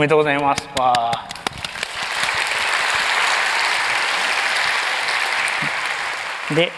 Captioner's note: applause